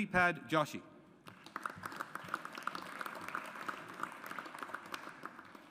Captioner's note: audience applauds